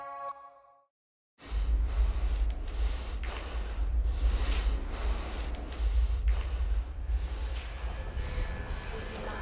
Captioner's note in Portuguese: respiração ofegante; respiração mais forte